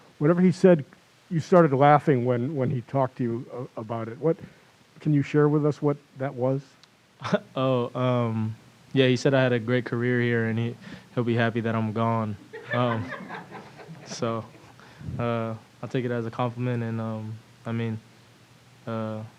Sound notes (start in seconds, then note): 12.5 laughter